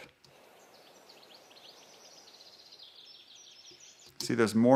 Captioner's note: birds Chirping